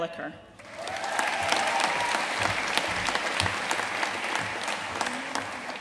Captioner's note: audience cheering and applauding